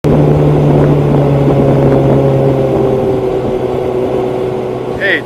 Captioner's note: boat motor